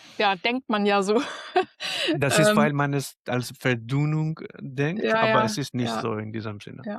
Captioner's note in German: gelächter